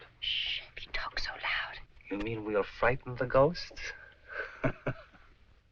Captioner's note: chuckles